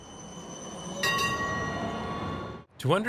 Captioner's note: tram bell